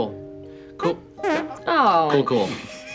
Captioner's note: farts